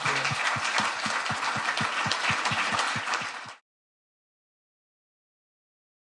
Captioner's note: applause